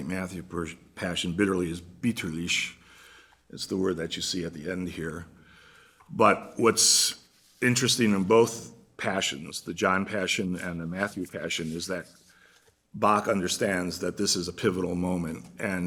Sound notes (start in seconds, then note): 2.3 german